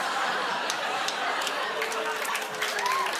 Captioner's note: cheers and applause